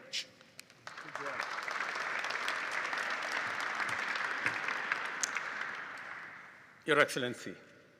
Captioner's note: applause